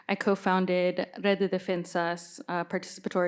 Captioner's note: none